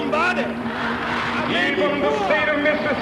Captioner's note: the crowd echoes again